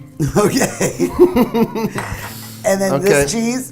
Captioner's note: both laugh